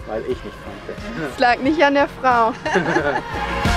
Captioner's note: laugh